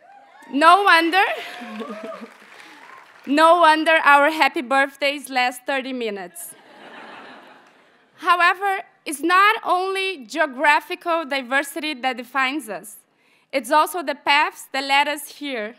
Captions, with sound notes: (audience cheers and applauds) No wonder our happy birthdays last 30 minutes. (audience laughs) However, it's not only geographical diversity that defines us. It's also the paths that led us here.